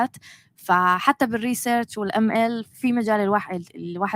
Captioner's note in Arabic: لغة أجنبية